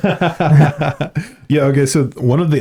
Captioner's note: laughing